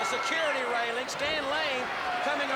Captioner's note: crowd chatter